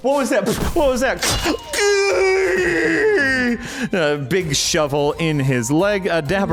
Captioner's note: screams